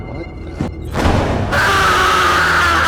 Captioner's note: door slams; Keisha screaming